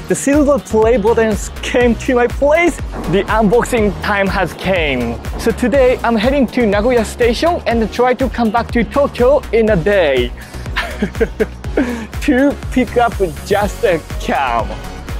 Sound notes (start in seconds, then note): 10.4 chuckles